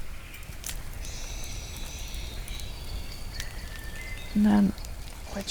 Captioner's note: birdsong